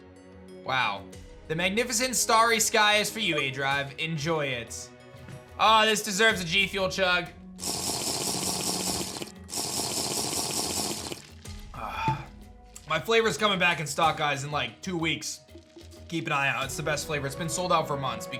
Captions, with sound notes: Wow. The magnificent starry sky is for you, aDrive. Enjoy it. Ah, this deserves a G Fuel chug. (drinking noise) My flavor is coming back in stock, guys, in like two weeks. Keep an eye out. It's the best flavor. It's been sold out for months,